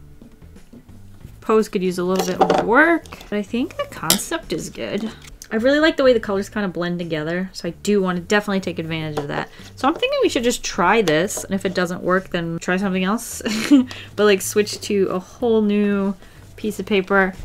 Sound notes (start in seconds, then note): 13.5 laughs